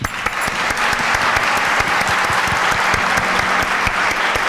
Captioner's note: applause